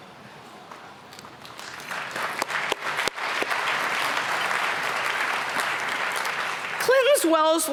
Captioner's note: applause